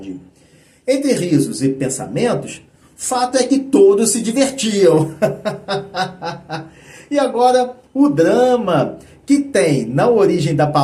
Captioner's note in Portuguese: risadas